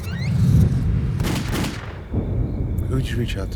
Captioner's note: gunshots